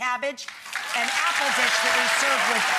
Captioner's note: audience applauding loudly